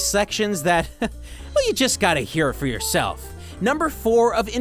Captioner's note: chuckles